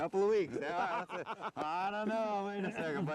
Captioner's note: laughter